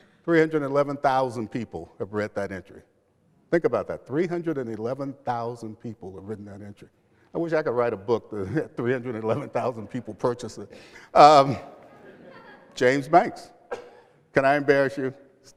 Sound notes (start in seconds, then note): 11.7 laughter